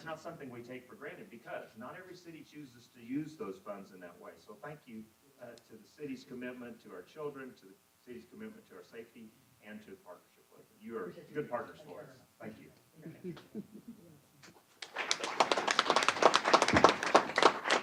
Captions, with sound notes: something we take for granted because not every city chooses to use those funds in that way, so thank you to the City's commitment to our children, to the City's commitment to our safety, and to the partnership. You are good partners for us. Thank you. [APPLAUSE].